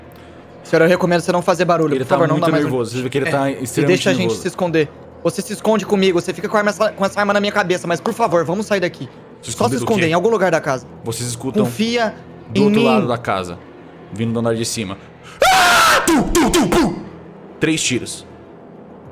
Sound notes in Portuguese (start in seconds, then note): 15.3 Grito; 15.4 pow